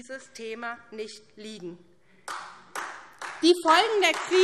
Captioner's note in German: Beifall SPD und Freie Demokraten